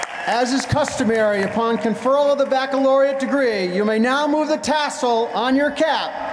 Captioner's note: cheering and applause